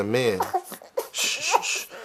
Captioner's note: baby cries